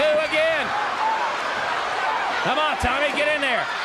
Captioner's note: crowd cheering